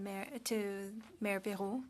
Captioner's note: speaking French